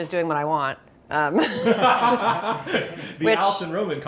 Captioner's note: laugh